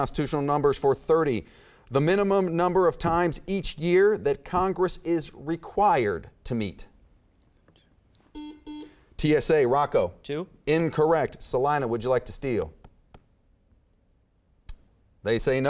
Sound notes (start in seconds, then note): 8.3 beeping